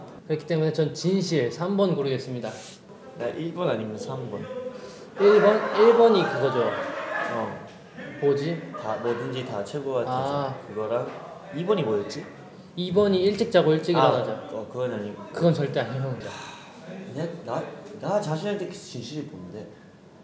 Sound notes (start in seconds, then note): 6.8 being loud next door